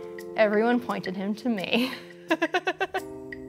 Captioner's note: laughs